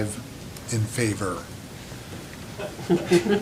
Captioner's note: laughter